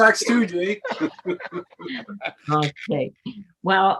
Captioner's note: members laughing